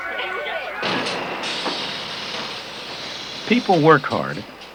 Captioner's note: sewing machine & factory noises